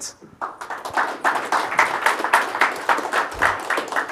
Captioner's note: audience applauding